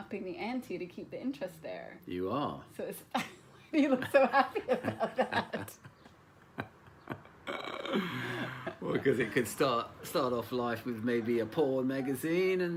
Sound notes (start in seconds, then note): 3.8 laughs